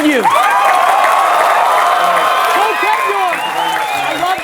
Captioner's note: audience cheers